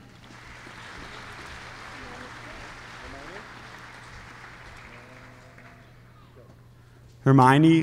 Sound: applause

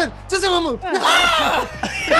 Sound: laugh

